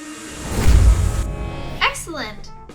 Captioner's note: time travel blasts